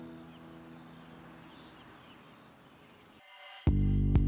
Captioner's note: birds chirping